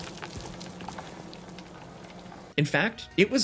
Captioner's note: leaves rustling